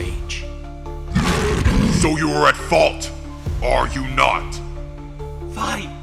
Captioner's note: roars